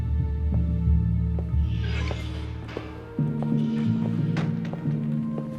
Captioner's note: screen Door Opens And Closes